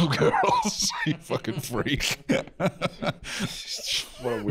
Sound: laughing

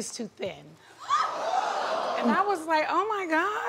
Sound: audience gasping

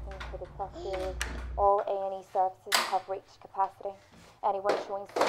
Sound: none

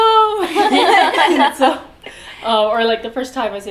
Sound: all laughing

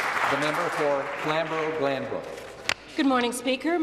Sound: applause

